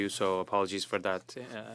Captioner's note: speaking French